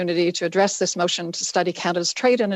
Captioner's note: speaking in French